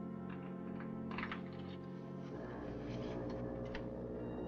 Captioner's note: foghorn Blows